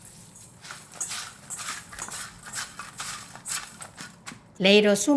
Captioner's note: fingers rubbing bowl